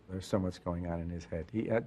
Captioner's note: voiceover